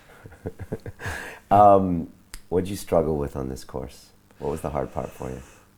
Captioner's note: laughs